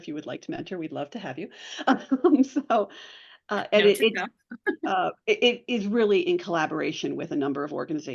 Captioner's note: laughs